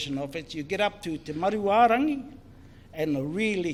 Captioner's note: foreign Language